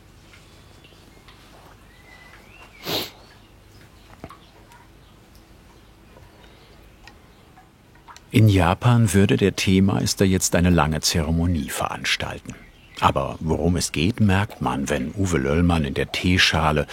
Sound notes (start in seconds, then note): 2.7 sniffles